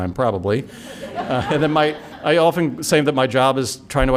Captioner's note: laughter